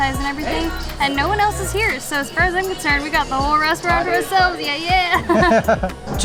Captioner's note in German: Lacht